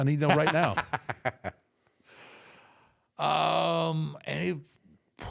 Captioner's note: Michael laughs